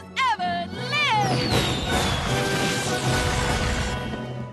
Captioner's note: fireworks whistling